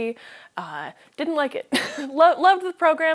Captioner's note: laughs